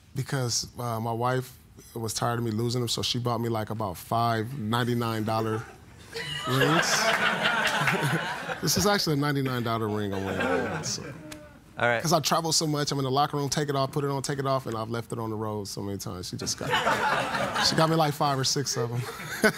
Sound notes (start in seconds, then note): 6.1 laughter; 19.3 laughing